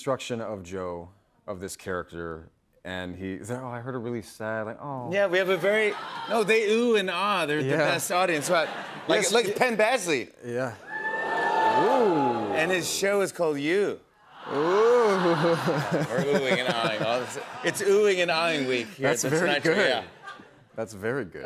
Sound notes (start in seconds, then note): 10.6 audience "Oohs"; 14.3 audience "Ahs"